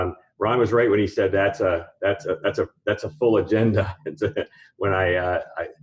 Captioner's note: laughs